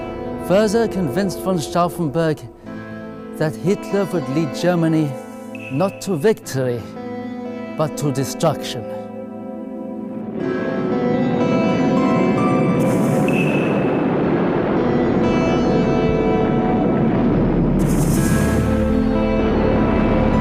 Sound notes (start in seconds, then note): 11.8 artillery firing; 11.8 melancholy music